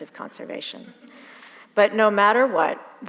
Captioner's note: audience laughs